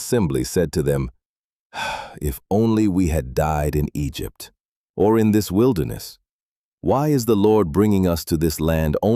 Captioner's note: sighs